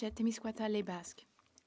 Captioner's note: speaking French